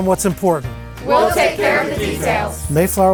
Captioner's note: in Unison